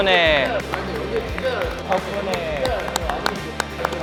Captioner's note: A thunderous applause